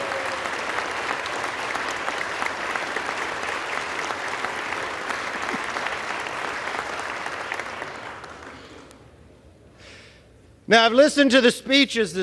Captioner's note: applause